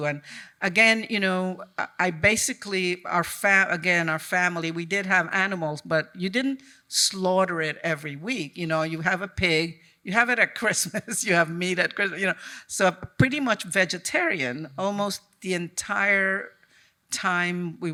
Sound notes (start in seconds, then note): none